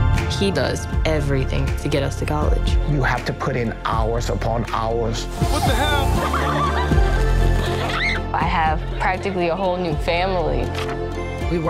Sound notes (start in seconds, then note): 5.5 laughing